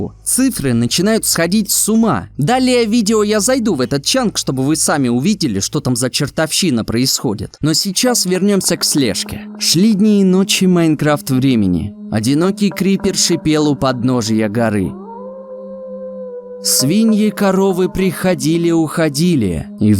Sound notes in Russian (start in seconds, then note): 14.9 Звук вой волка